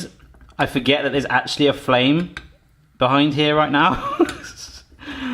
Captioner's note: laughs